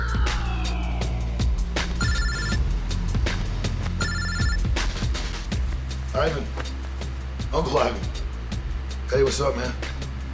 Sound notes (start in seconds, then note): 1.9 phone rings